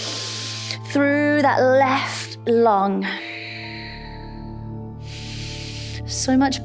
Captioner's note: inhales; inhales; exhales